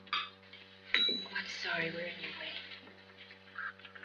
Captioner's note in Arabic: الخادمة ترن الجرس